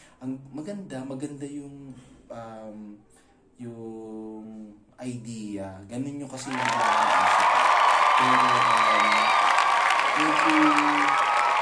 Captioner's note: applause